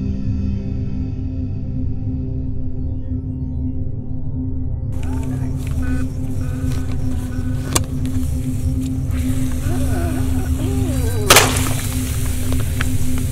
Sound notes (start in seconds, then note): 11.2 small Explosion